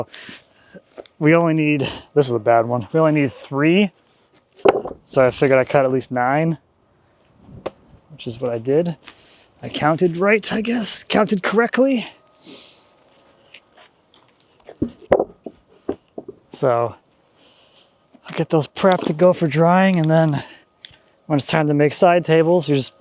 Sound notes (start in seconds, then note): 14.7 wood clanging